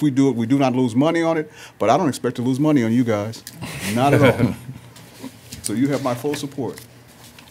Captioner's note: laughter